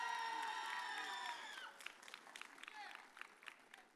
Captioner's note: audience cheers